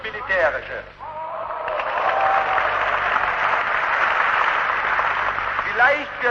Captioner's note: applause